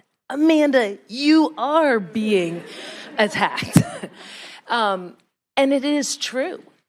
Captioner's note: all laughing